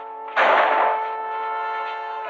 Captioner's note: gunshot